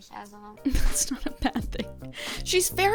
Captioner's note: laughs